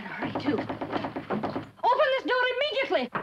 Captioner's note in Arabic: طرق الباب